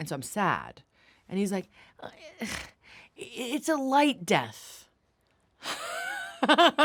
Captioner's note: laughs